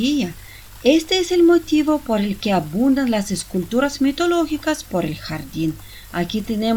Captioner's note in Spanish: Sonido del Agua de la Fuente